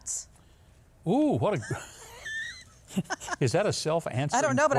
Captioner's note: chuckles